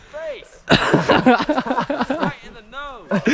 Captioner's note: laughing even more maniacally